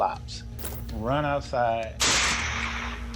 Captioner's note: gun fires